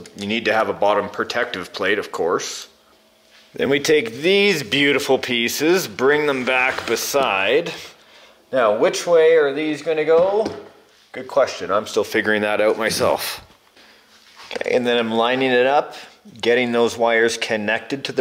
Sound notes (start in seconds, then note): none